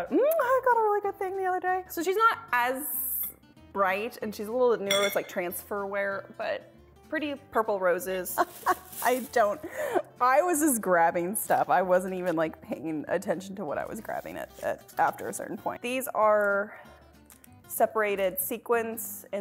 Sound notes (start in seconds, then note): 8.3 laughing